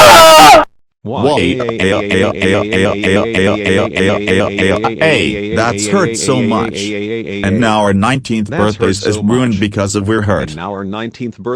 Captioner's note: crying